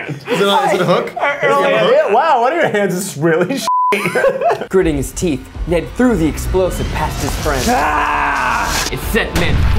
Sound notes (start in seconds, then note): 3.8 screams; 7.6 screams